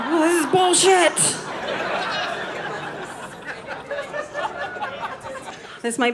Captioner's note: audience laughing